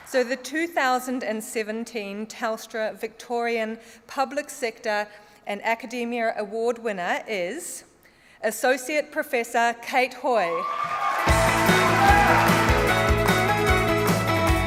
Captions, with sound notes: So the 2017 Telstra Victorian Public Sector and Academia Award winner is Associate Professor Kate Hoy. (CHEERING AND APPLAUSE)